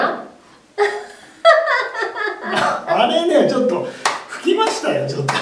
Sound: laughs

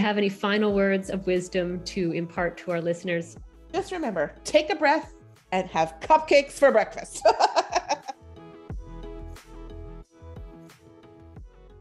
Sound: laughing

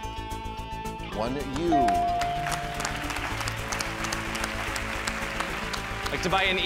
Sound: audience clapping

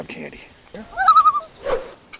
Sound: loon call

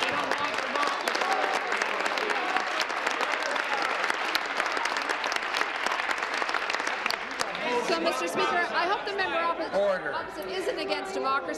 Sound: applause

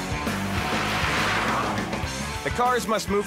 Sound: car engine revving

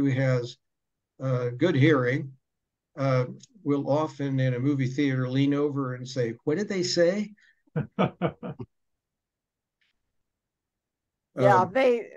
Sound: chuckle

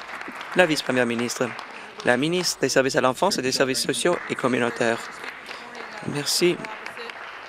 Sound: applause

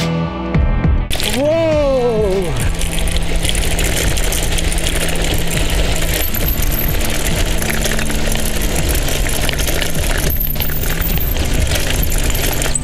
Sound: cycle Riding Sound

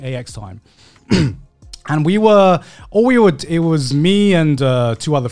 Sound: clearing throat

